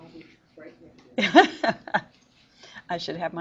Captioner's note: teacher laughs